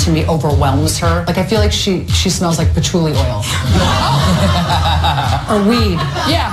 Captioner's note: audible laughter